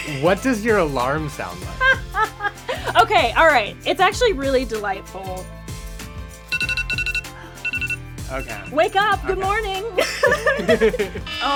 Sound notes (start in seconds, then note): 1.7 laughs; 6.5 alarm sounds